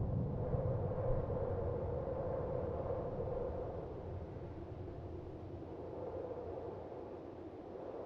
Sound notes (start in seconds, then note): 2.4 wind howling continues